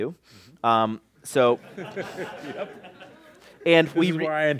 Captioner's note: laughter